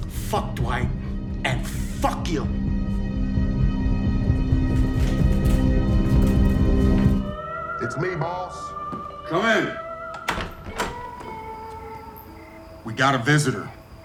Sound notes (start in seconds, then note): 2.6 deep ominous music continues; 10.1 door clicking